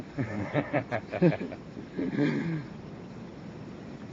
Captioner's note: men laugh